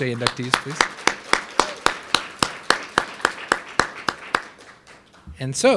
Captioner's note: and audience applauding